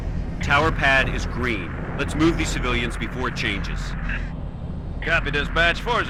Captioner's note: radio